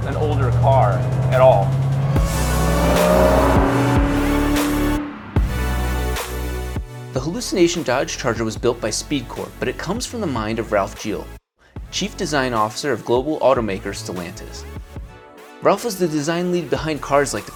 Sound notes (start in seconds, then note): 2.1 engine revving; 4.2 mellow music